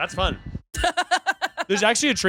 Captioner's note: laughing